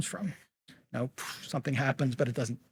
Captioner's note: mimics gunpowder fizzling